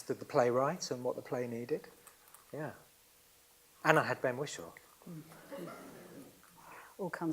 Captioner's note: laughs